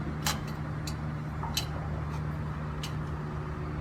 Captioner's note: metal clanging